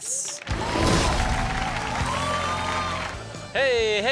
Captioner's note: audience cheers; upbeat music